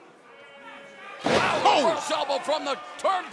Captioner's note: crowd chatter